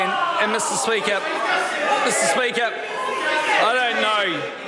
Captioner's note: members shout